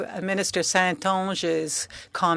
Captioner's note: speaking French